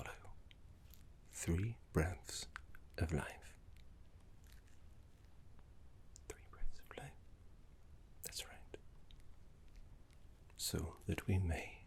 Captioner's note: whispered